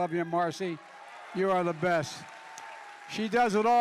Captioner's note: applause